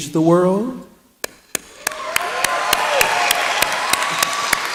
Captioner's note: applause